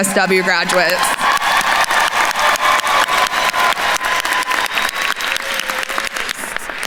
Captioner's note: attendees cheering and applauding